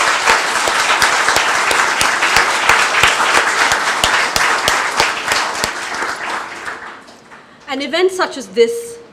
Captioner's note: applause